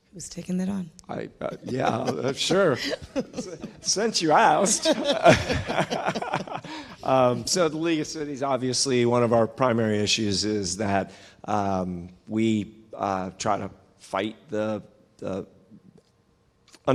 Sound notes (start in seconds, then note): 6.1 laughing